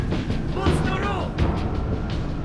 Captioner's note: alien language